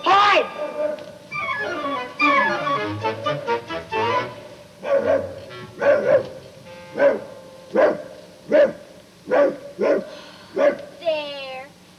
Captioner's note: barking